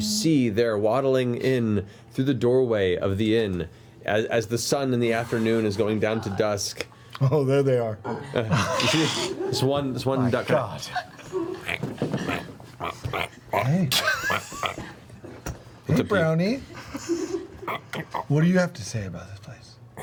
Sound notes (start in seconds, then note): 12.8 quacking